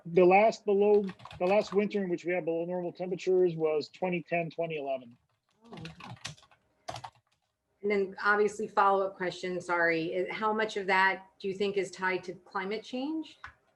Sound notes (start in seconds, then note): 6.8 keyboard clicking